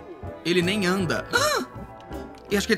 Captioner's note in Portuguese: faz som de surpresa